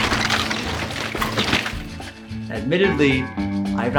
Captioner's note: building crumbling